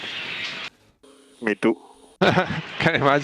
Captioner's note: laughs